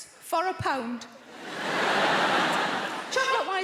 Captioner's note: audience laughs